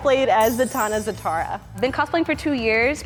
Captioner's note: bells chime